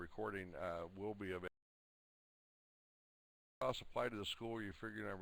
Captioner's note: audio drops